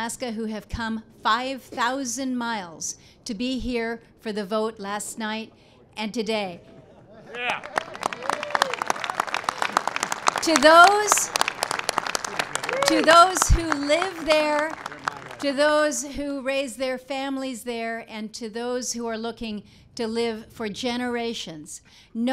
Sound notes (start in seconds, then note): 7.3 applause